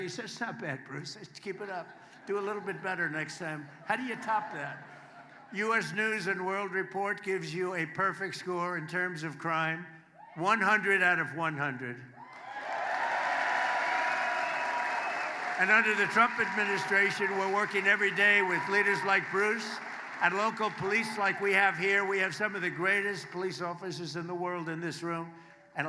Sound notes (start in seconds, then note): 16.2 applause